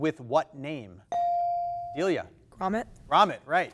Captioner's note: bell dings